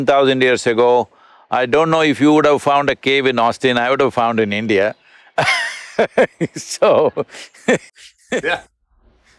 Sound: laughs

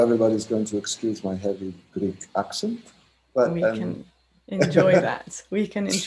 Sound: laughs

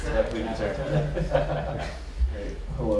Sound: laughter

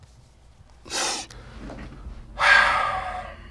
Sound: sniffles; sighs

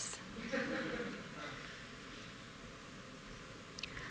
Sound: laughter

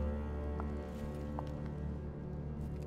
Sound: footsteps

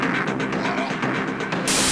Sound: zombie groan

